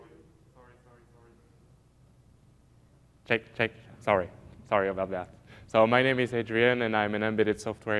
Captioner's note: no audio